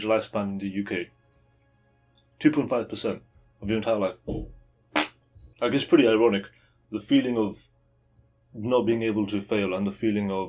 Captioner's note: 放屁